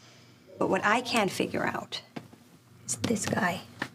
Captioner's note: none